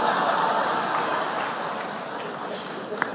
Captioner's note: laughter